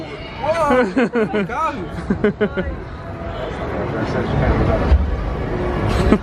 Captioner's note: laughs